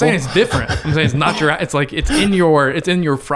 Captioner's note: laughs